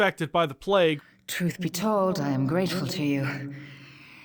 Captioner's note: echoing